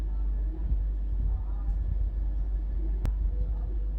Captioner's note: TV noises in the back